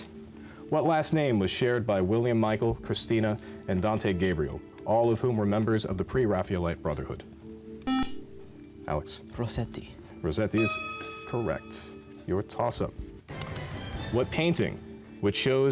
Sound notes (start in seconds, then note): 7.8 buzzer